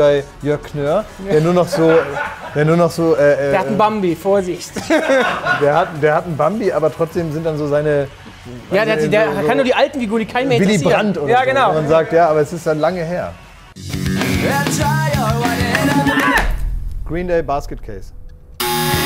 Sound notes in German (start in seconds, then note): 4.7 Gelächter; 13.7 Rockige Musik